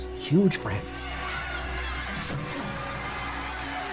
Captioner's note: cheering